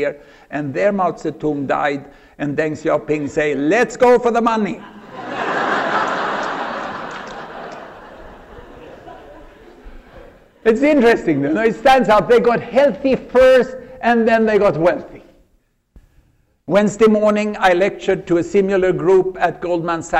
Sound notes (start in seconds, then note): 7.3 laughter